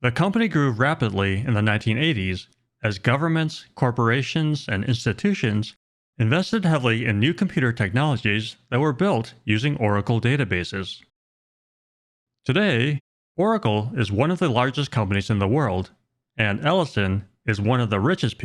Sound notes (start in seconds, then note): none